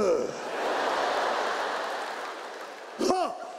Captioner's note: audience laughs